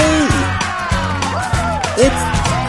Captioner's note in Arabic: هتاف وتصفيق